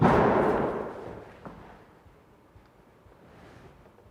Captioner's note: door bangs